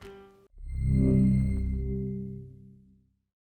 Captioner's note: logo warbles